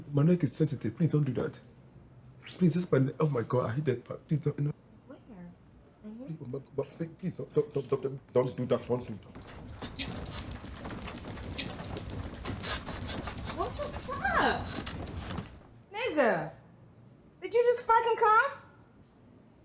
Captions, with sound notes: My neck is sensitive, please don't do that. Please... Oh my God, I hate that part. - Where, right here? - Please, (stammering) don't do that. (bed shaking) - What the fuck? Nigga, did you just fuckin' cum?